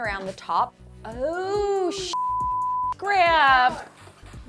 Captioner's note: beep